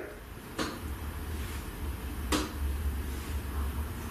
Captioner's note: tapping